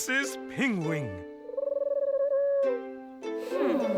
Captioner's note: Pingwing coos